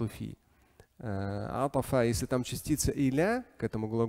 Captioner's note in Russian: говорит на арабском